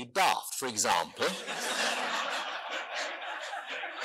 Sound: audience laughing

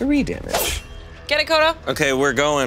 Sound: blade slashes

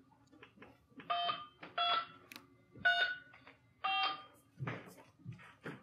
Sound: electronic keycode beeping

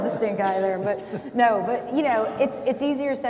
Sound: audience chuckles

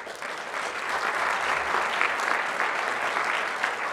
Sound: audience applauds

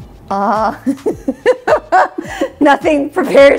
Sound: laughing

